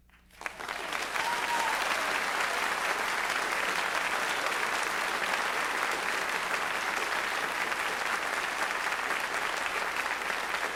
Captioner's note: applause